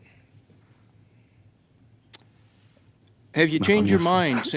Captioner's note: speaking French